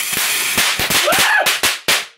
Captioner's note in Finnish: idioottimaista huutoa